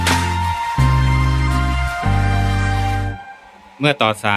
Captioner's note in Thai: ปรบมือ